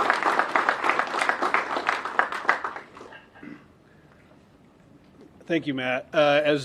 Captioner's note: applause